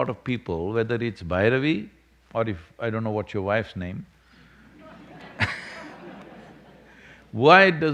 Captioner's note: laughter